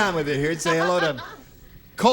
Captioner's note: laughs